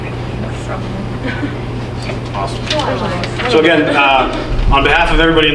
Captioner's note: people talking in background